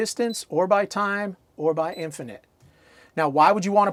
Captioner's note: beeping sound